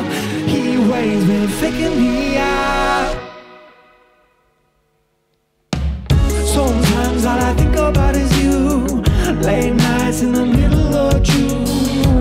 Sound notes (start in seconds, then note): 3.1 music stops; 5.9 drum kick